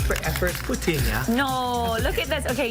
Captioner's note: speaks in a foreign language